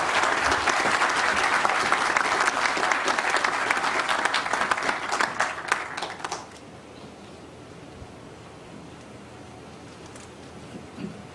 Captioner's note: applause